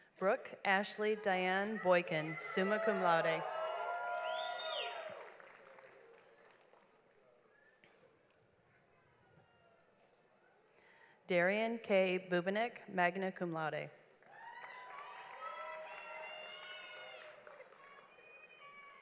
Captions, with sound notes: Brook Ashley Dyanne Boykin, summa cum laude. (audience applauds) Darian Kay Bubenik, magna cum laude. (audience applauds)